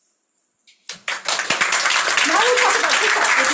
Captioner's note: crowd members clapping